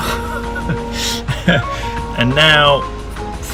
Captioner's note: laughs